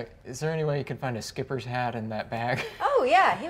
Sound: laughs

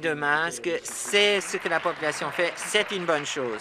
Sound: applause

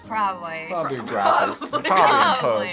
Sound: laughs

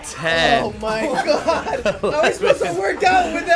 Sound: laughing

